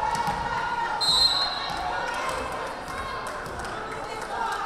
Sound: whistle blaring

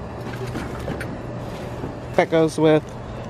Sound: plastic crinkling

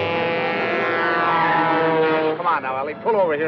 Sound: horn honking

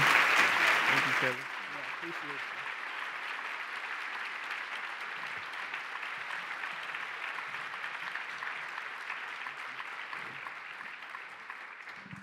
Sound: applause

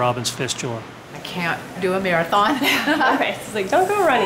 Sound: laughs

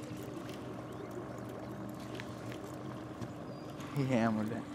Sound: boat engine idling

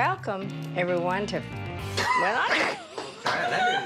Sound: laughter

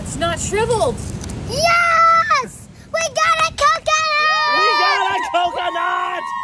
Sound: everyone cheering

